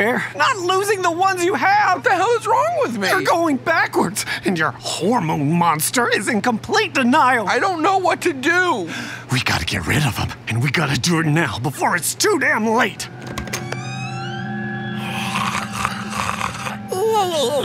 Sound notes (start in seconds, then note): 13.0 door creaks; 15.0 Maury snoring